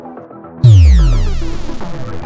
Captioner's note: upbeat electronic music; device beeping